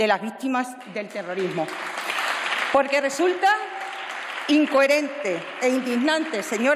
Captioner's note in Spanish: Aplausos